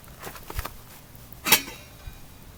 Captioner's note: pot lid clanging